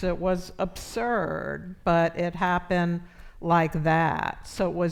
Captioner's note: none